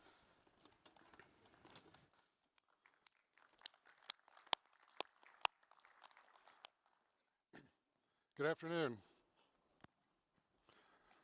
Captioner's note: applause